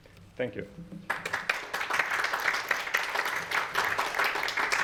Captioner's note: applause